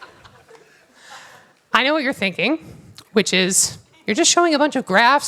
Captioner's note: laughter